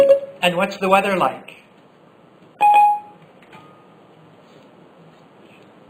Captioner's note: Siri beep